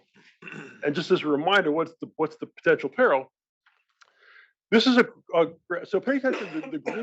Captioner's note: cough